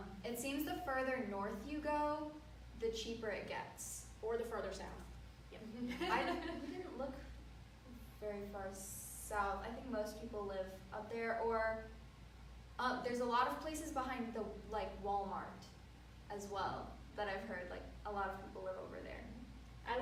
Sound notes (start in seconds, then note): 5.9 laughing